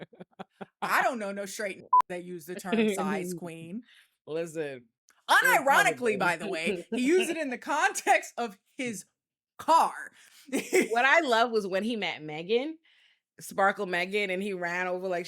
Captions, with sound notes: I don't know no straight and (beep) that use the term size queen. Listen. Unironically, by the way, he used it in the context of his car. What I love was when he met Megan, sparkle Megan, and he ran over,